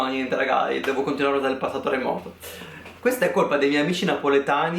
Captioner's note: messes up Italian verb tense